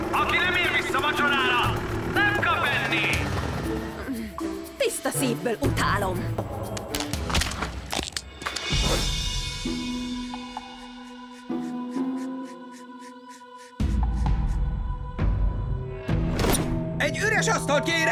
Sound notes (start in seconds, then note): none